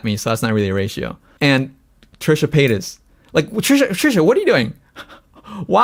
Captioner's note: laughs